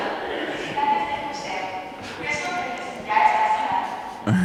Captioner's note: PA announcing closure